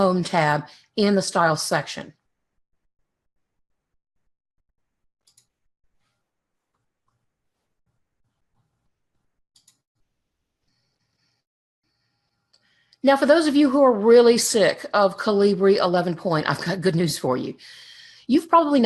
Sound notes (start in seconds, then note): 5.2 mouse clicks